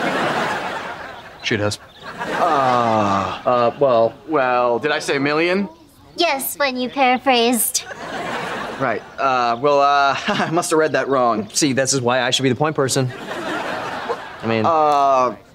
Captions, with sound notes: She does. - Uh... - Uh, well, well, did I say million? Yes, when you paraphrased. Right. Uh, well, [chuckles] I must've read that wrong. See, this is why I should be the point person. - I mean... - Uh...